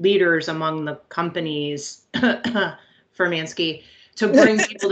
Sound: group laughs; coughs

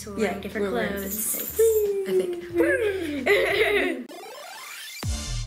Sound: laughing; upbeat music

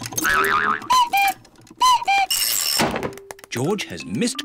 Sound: clock cuckoos

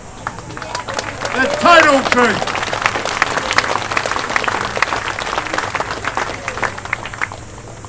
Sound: applause

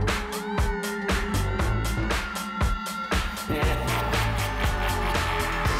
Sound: animal howling; woman screaming; laughs evilly

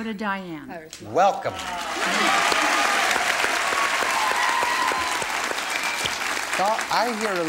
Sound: applause

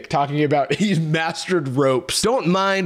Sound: laughs

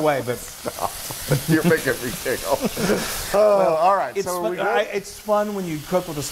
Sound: laugh

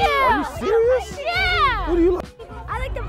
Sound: kids shouting ew

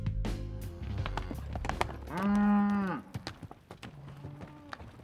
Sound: cows mooing

